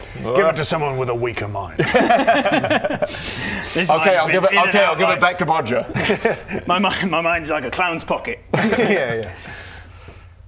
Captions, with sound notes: Give it to someone with a weaker mind *tempted laugh* - Okay I'll give it back to Bodger - This mind's been in and out of life my mind's like a clown's pocket yeah yeah